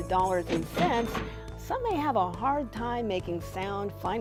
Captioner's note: bell ringing